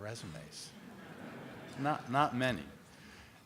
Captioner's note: laughing